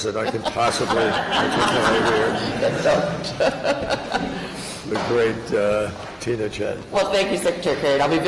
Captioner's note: laughter